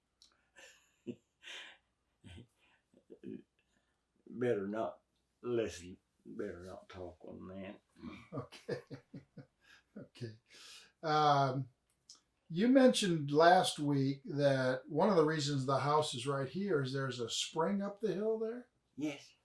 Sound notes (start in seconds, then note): 10.9 laughs